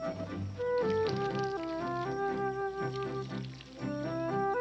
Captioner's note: water splattering